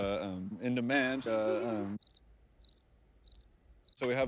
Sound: cricket chirps

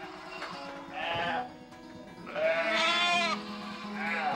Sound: bleating

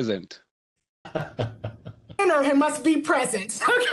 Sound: man chuckling

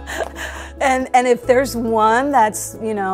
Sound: chuckling

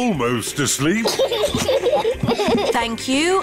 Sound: both laugh

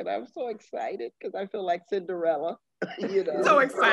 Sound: laughing

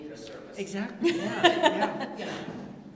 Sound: laughter

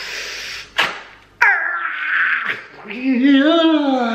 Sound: groans in pain

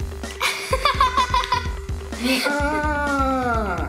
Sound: laughing

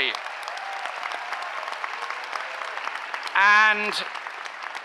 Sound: cheering applause

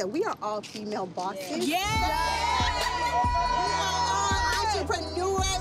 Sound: cheering

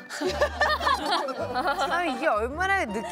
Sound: hahahaha

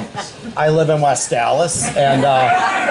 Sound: laughter

